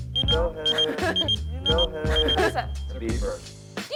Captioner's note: beeper beeping